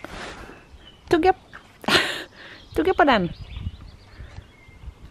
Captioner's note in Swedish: skratt